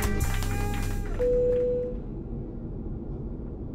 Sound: chime

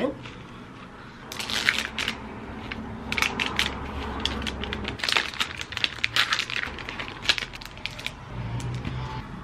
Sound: plastic crinkling

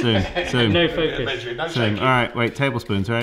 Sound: loud laughing

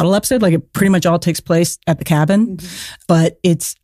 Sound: none

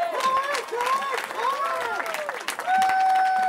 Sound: cheering

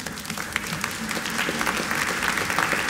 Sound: applause

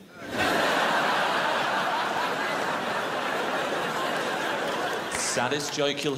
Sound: crowd laughs

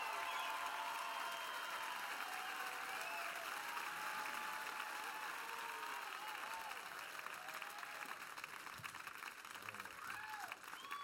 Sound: cheers and applause

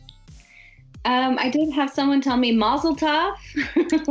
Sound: laughs

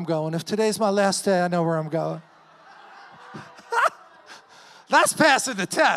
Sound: audience laughs

